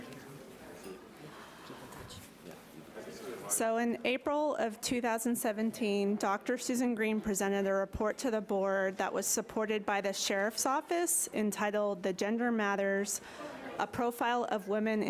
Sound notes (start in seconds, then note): 2.4 group whispering